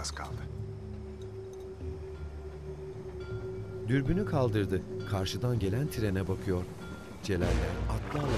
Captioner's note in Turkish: Müzik - Gerilim; Tren sesi; Müzik - Gerilim